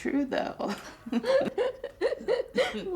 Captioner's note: both laughing